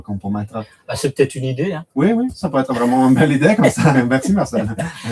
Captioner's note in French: rires